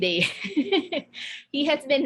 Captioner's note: laughing